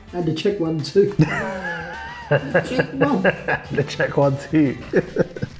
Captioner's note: both laugh